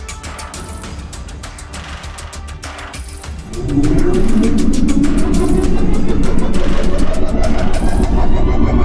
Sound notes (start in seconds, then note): 3.5 ship rumbling and whirring